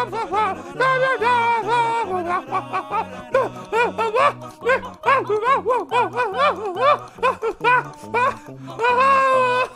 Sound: now it just sound's like he is making animal noises; more grunting and throat singing

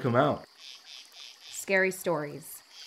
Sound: insects croak

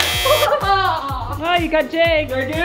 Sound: buzzer buzzes

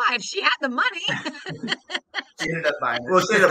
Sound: laughing

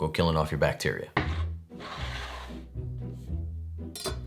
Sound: board sliding

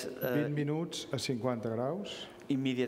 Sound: speaking catalan

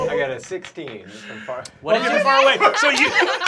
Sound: laughter

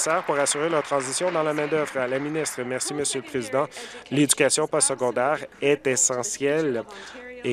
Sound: applause

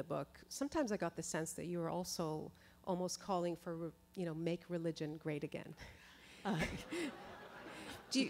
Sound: chuckle

